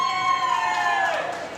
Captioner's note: applause